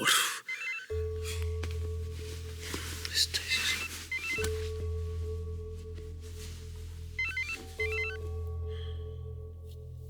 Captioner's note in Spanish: Suena el celular